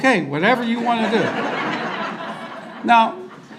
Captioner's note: audience laughter